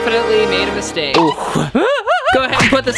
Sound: giggles

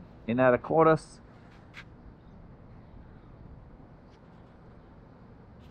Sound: engine roaring

